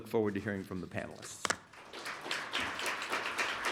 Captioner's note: applause